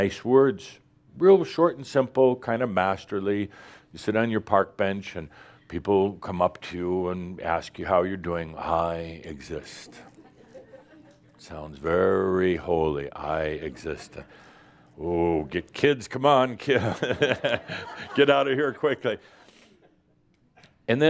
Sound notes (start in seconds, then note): 10.3 a few chuckles; 16.7 laughter